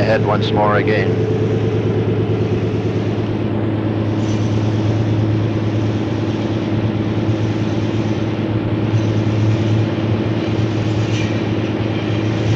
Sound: sound of the train moving

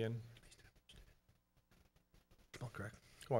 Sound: whispering off microphone

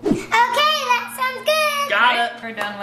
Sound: none

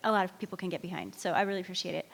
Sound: none

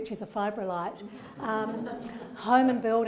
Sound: laughter

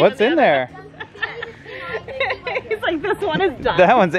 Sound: laughs

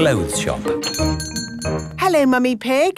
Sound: doorbell chiming

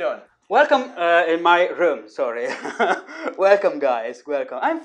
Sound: laughing

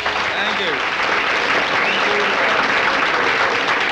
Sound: audience applauding

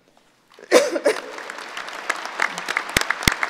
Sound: applauding

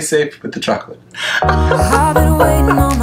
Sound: laughs

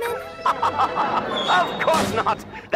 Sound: laughs

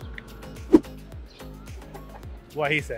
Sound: air whooshing

